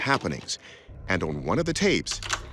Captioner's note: tape clicks